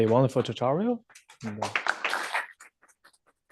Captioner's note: applause